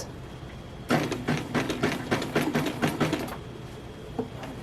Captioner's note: methodical, deliberate sewing machine noises